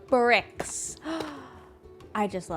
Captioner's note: gasps